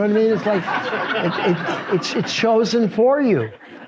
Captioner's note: audience laughs